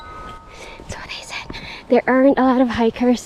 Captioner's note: rings the bell